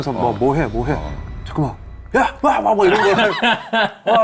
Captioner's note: screaming into an empty monitor